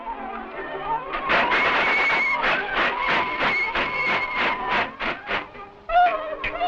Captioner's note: steam hissing; whistle blowing